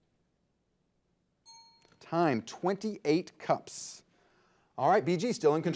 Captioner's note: signal dings